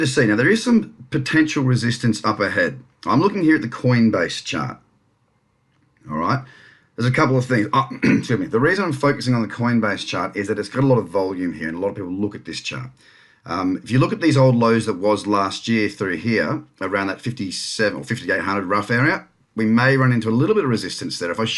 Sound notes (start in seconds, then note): 7.8 clears throat